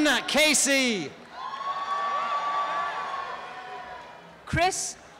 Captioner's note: applause and cheering